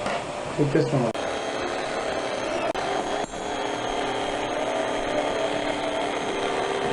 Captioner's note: electric knife cutting turkey